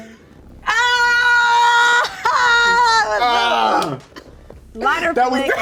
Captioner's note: screaming